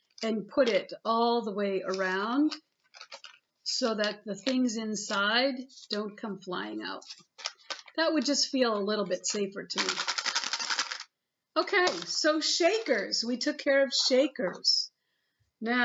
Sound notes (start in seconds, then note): 9.7 fast shaking